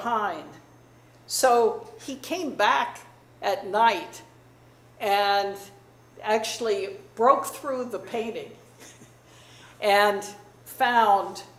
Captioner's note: chuckles